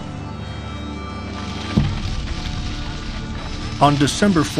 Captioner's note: fires crackle